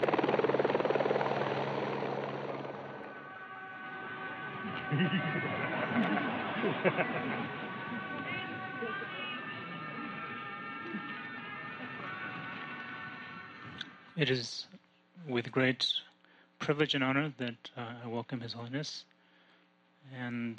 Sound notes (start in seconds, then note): 0.2 sound of a helicopter; 3.8 sound of Tibetan horns; 4.6 laughter; 9.6 sound of Tibetan horns